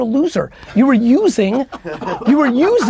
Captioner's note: group laughter